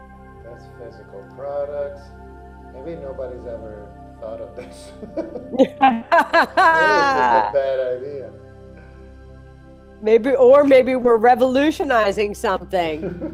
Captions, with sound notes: That's physical products. Maybe nobody's ever thought of this. (both laugh) A bad idea. - Maybe, or maybe we're revolutionizing something.